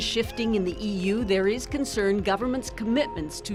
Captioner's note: cheers and Applause